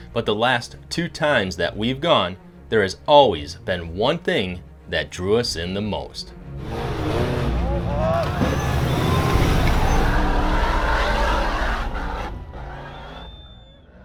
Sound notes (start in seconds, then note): 6.3 intense music; 7.7 man yelling; 9.0 engine revving